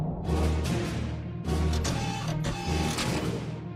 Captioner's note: mechanical whirring